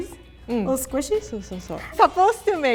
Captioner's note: speaks in foreign language